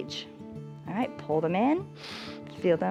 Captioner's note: inhales